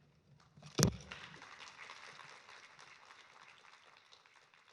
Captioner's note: audience applauding